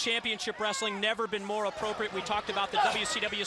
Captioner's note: crowd chatter